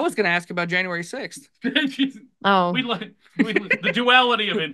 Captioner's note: laughs